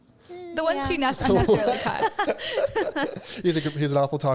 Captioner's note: laughter drowns out speaker